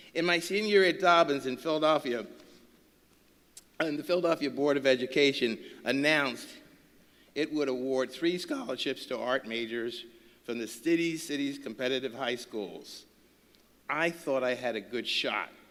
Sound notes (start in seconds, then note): none